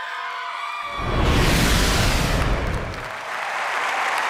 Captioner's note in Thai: ปรบมือ